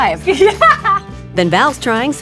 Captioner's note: laughs